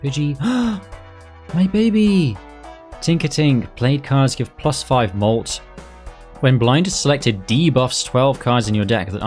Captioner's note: gasp